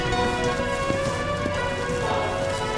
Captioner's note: running footsteps